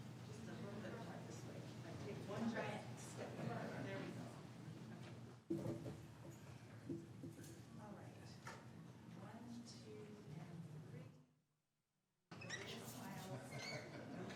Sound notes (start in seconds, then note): 6.5 chatter